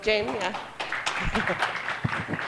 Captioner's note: applause